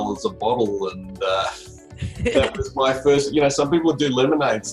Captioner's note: both laughing